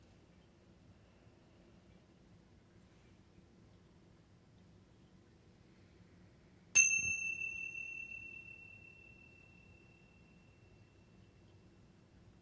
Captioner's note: long pause as chimes slowly ring 22 times